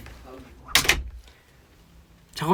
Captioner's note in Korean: 문 닫히는 소리